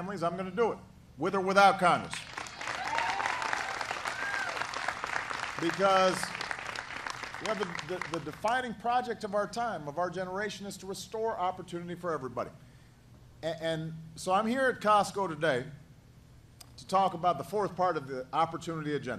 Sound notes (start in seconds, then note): 2.1 applause